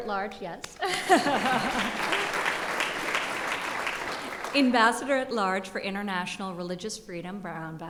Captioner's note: applause